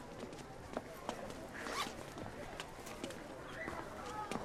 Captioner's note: unzips